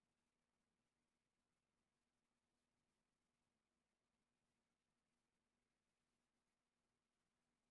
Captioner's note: none